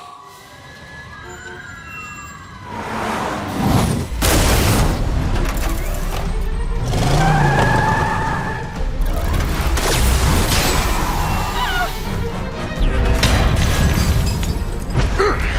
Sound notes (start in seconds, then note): 0.0 city sounds